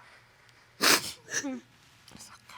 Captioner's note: sobbing